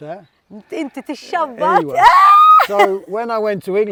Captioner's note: exclaims